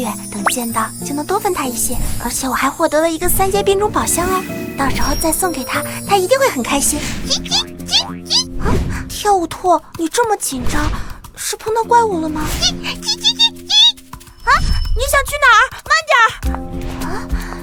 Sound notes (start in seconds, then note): 7.2 chirp chirp chirp; 12.6 chirp chirp chirp chirp